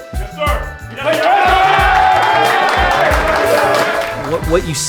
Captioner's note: cheering